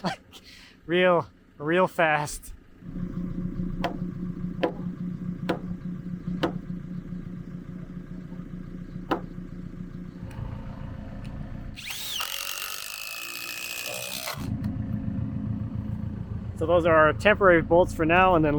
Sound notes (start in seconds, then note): 4.6 mallet pounding; 11.7 drill whirring